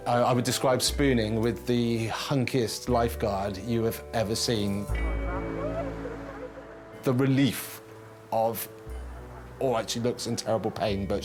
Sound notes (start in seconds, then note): 5.0 groans